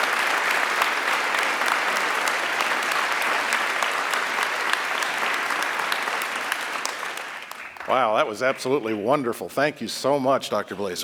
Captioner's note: applause